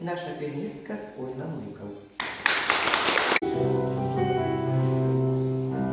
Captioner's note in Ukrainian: оплески